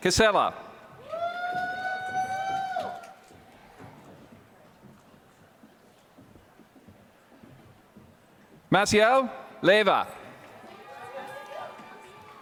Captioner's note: applause